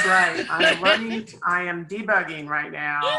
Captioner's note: laughs